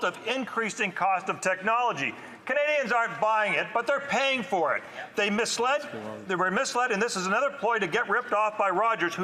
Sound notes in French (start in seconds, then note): 0.5 voix de l'interprète